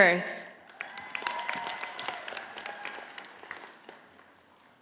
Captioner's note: audience applauding